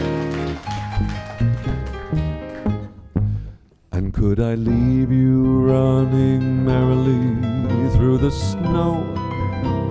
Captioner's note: applause